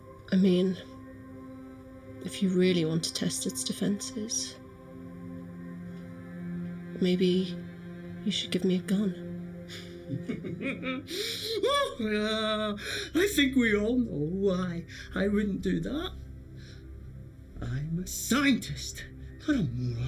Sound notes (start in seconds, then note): 9.8 Eric laughing